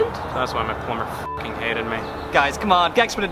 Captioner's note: beeps